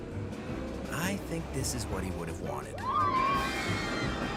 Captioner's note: cheering and screaming